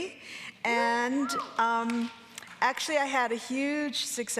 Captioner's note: audience cheering